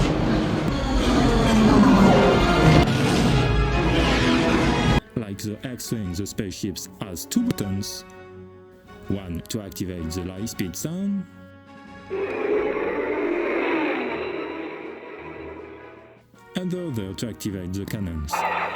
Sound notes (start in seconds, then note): 12.1 lightspeed sound